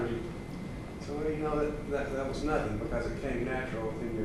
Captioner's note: softly mumbling